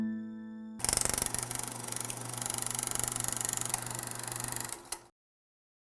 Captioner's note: old film reel noise